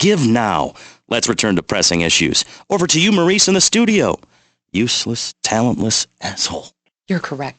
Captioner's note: whispering